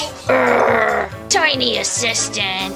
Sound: Romeo grunting

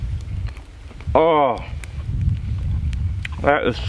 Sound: groaning

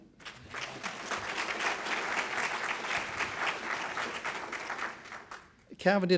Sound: clapping

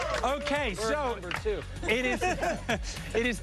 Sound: applause

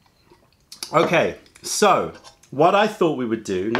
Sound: sips tea

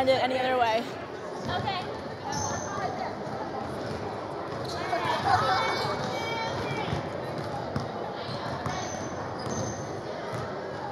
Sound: gym noises

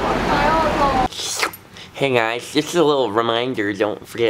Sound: slurps

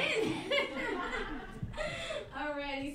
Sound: laughing

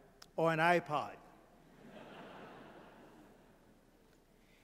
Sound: laughter

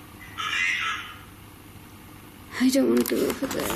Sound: Ovilus buzzes

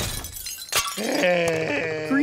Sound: groaning

